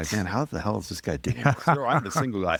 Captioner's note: laughing